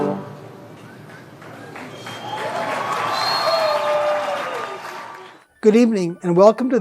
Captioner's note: audience cheering and clapping